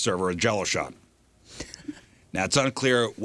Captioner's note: laughter